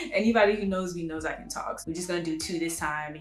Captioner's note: laughs